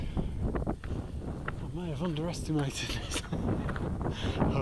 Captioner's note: chuckles